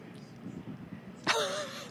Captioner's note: laughs